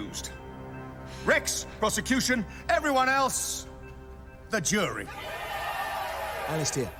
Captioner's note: crowd cheering